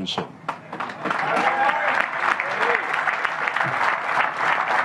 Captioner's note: applause